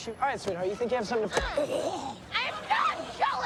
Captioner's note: Michael groans; thump